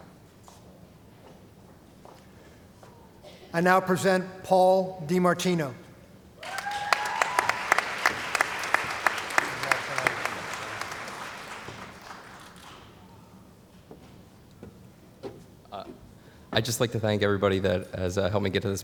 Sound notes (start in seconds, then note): 6.4 cheering & Applause